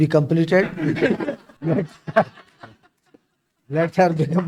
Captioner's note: laughs